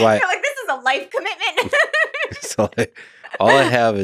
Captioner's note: laughs